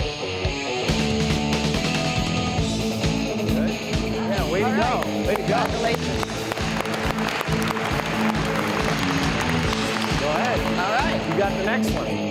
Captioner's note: applause